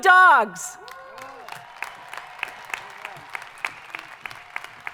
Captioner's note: crowd applauding